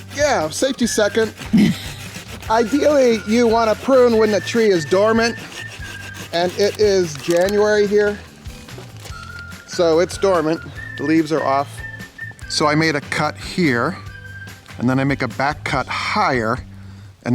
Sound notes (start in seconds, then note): 1.4 camera operator laughs